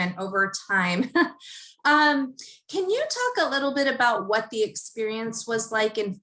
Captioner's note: laugh